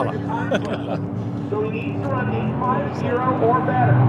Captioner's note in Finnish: naurua